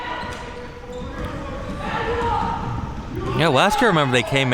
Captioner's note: spectators shouting